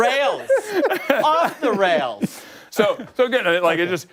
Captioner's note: laughter